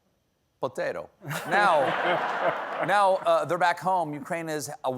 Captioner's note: laughter